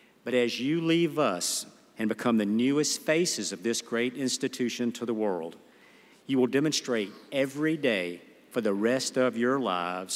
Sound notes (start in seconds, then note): none